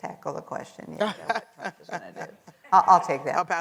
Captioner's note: laughs